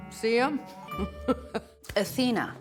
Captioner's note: laughs